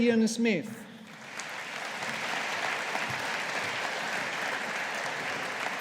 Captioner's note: audience applauding